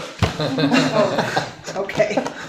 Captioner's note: laughing